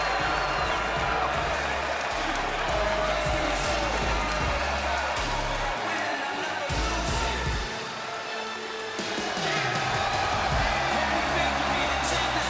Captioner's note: crowd cheers